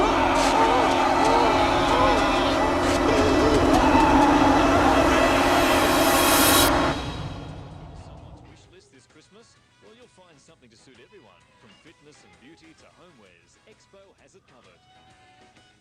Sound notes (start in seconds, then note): 0.0 suspenseful music; 4.0 screams; 6.2 suspenseful music